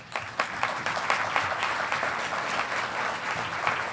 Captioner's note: audience applauding